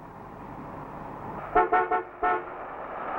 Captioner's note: horn Honking